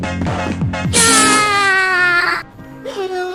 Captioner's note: Noo-Loo Screaming; Noo-Loo Crying